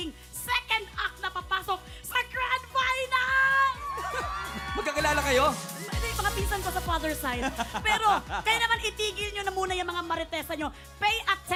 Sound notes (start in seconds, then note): 3.3 cheering; 3.9 laughs